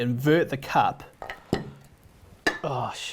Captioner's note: mug banging against plate